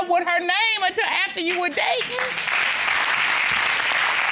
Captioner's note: audience applauds